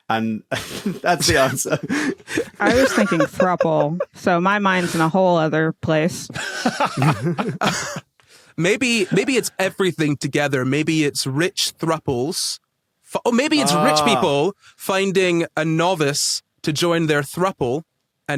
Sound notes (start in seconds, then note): 0.5 laugh; 6.3 laughs